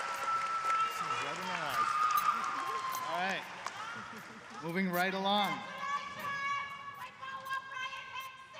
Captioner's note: applause